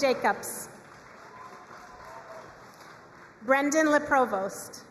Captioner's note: crowd cheering and applauding